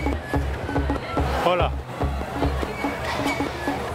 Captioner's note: in Portuguese